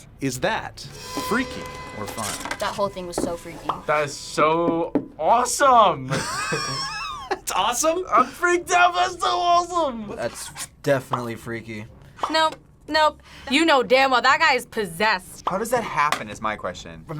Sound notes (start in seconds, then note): 6.1 React laughs